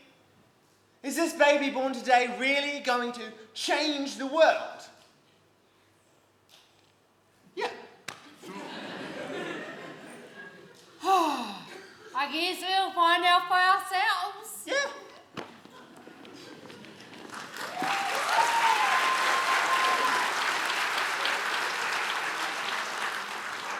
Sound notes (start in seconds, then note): 8.4 laughter; 16.3 applause